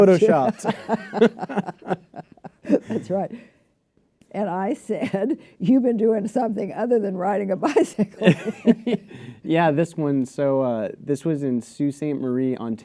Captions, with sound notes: - Because I have to. (Laughter) - That's right. And I said, "You've been doing something other than riding a bicycle here." - Yeah, this one, so this was in Sault Ste.